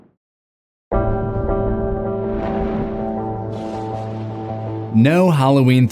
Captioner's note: thunder